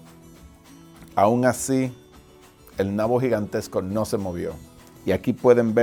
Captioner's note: speaking foreign language